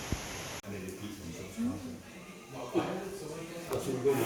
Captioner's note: shop noises, people talking